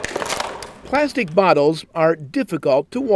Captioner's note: crunching plastic bottles